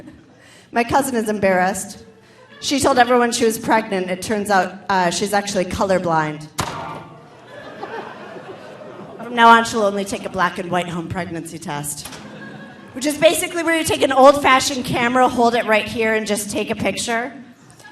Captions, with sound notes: My cousin is embarrassed. She told everyone she was pregnant. It turns out she's actually colorblind. (audience laughing) From now on, she'll only take a black and white home pregnancy test, which is basically, where you're take an old fashioned camera, hold it right here and just take a picture.